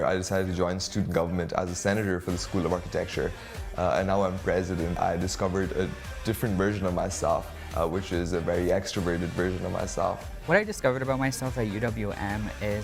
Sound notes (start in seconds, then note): none